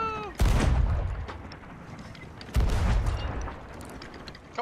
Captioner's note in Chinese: 大砲聲